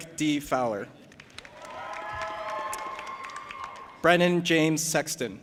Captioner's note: audience applauding and cheering